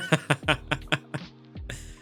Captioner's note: laughs